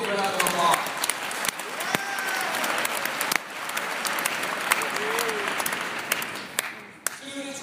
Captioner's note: applause